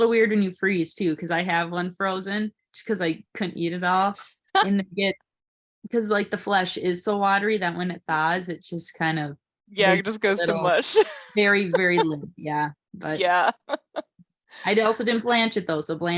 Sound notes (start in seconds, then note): 4.3 laughs